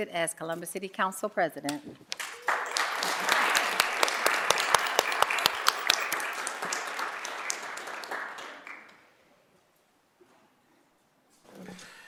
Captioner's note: applause